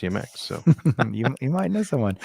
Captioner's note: laughs